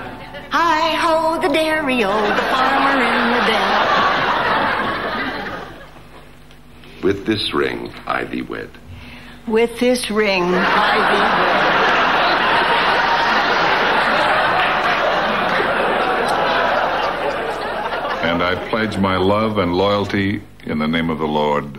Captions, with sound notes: I hold the dairy old farmer in the bed. With this ring, I be wed. With this ring, I be wed. (audience laughing) And I pledge my love and loyalty in the name of the Lord.